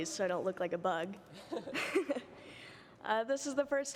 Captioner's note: laughter